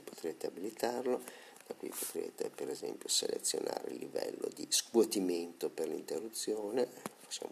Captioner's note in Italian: soffio